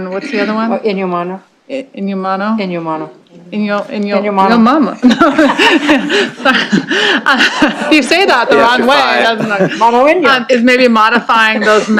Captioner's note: laughter